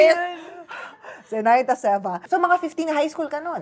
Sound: laughs; playfully

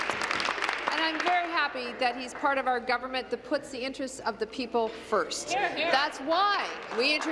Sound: applause

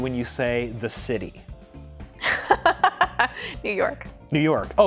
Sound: laughs

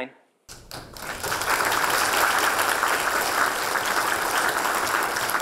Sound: applause

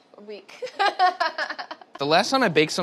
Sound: laughs

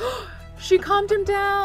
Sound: gasps

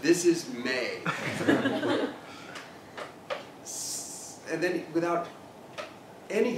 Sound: laugh

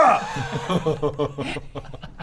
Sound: doomed laughter

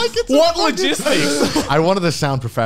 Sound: laughing

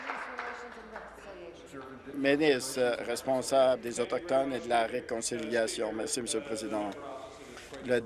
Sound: applause

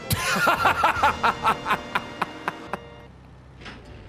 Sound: laughs

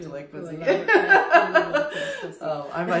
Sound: laughs

